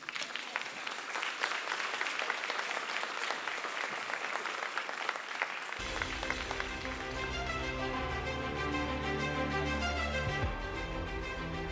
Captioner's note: applause, Music